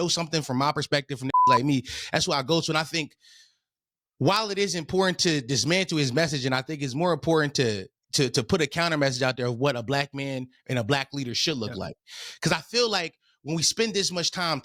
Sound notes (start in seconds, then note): 1.3 beep